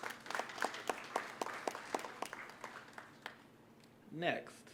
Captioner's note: applause